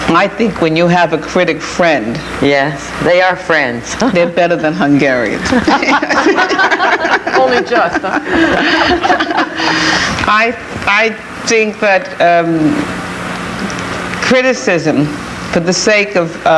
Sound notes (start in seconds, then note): 5.7 panelists laughing